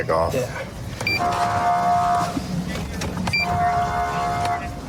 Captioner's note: horn blaring